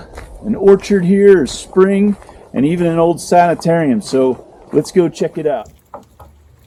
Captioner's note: footsteps on bridge